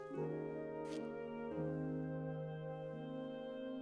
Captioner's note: sniffs